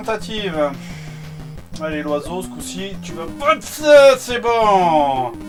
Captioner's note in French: Soupir